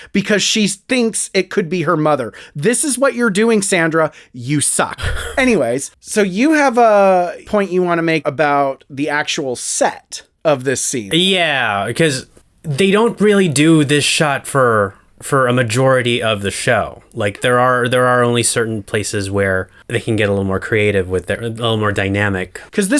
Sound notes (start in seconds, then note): 5.0 laugh